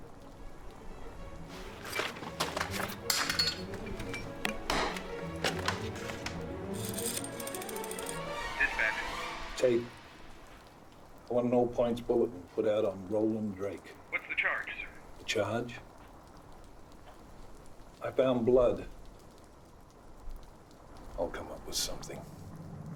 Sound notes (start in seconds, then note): 0.0 dramatic music; 6.9 phone clicking